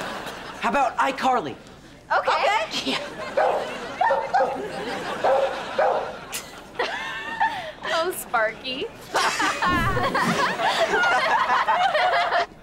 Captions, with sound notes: How about iCarly? - Okay. - Okay. Yeah. [barking] [laughing] Oh, Sparky. [laughing]